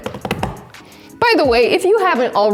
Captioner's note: hands tapping